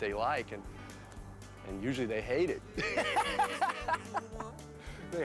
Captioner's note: laughs